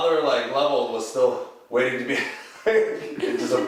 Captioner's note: laughs